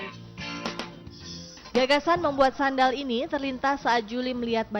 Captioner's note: non-english speech